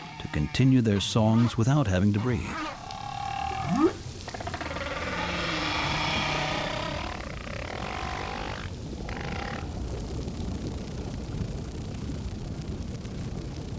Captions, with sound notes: to continue their songs without having to breathe. [trilling, whooping]